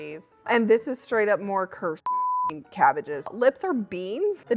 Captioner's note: beep